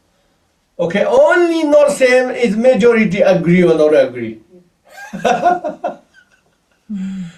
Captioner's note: laughs